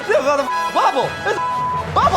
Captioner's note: crowd cheering; beep